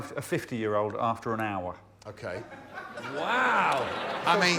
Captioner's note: laughter